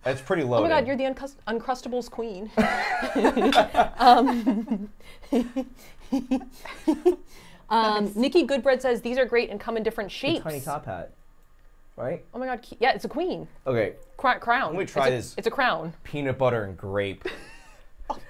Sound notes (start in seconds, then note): 2.6 laugh; 17.2 laughs